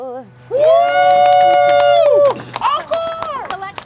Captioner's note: group applauds